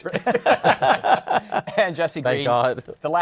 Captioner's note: laughter